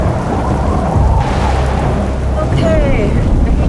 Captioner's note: wind howling